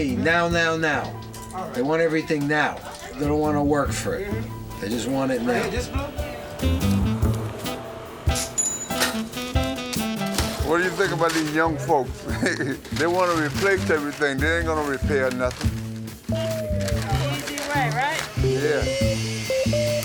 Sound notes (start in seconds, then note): 8.2 cash register dinging